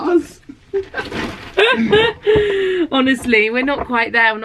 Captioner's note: laughs